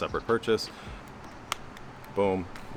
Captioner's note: mouse cracking